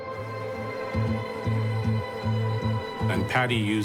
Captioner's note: flies buzzing